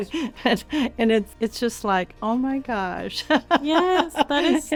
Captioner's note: giggles; laughing